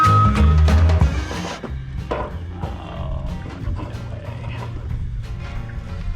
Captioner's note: groans, siding removal noises ensue